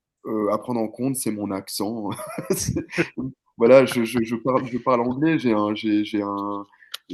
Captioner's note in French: rires